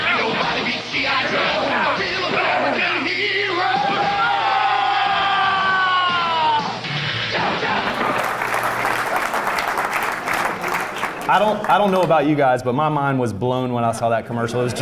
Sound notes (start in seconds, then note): 4.8 Super Trooper yelling; 6.7 drums; 7.8 applause